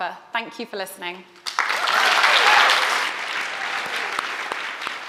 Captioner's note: applause